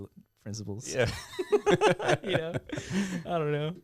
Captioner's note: laughing